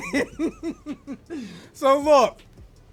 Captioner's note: laughs